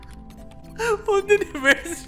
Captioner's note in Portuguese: risos